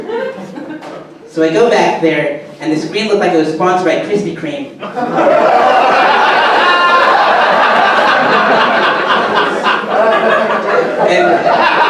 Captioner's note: audience laughter; audience laughter